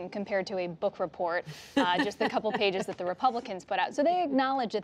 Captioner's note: laughter